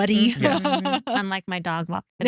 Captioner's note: laughs